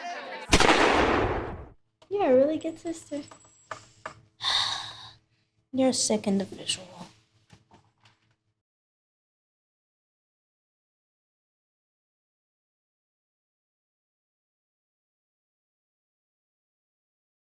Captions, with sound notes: (gun shot) - You're a really good sister. (sighing) - You're a sick individual.